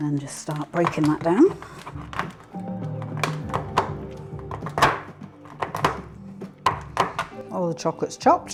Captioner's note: chopping cruch